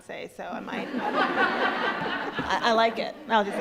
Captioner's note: crowd laughs